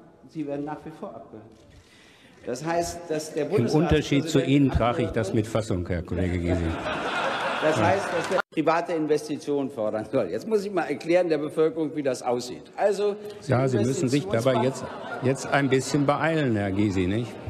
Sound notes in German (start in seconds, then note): 6.2 Gelächter